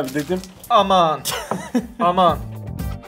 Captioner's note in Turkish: gülüşme